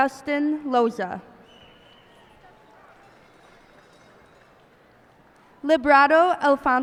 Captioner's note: cheers and applause